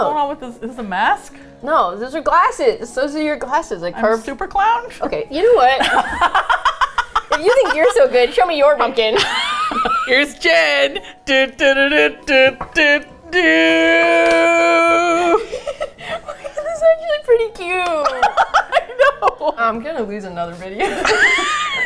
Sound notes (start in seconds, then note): 5.4 both laugh; 9.1 laughs; 11.2 triumphant humming; 14.7 laughs; 18.2 laughs; 20.8 both laugh